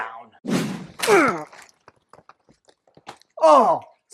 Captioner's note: woosh, splat